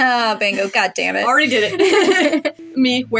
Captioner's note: laugh